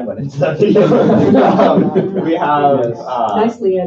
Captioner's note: laughter